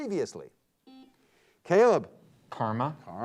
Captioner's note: buzzer beeps